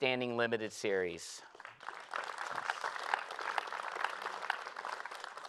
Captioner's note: applause